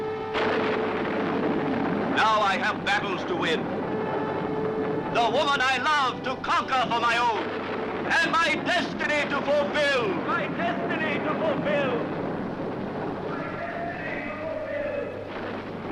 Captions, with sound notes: Now I have battles to win, the woman I love to conquer for my own, and my destiny to fulfill. (shouts echoing)